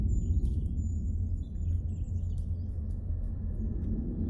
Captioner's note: birdsong fades